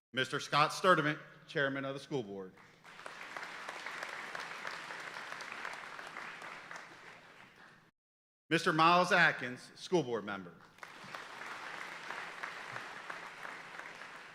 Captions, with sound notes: Mr. Scott Sturdime, Chairman of the School Board. (audience applauding) Mr. Miles Atkins, School board member. (audience applauding)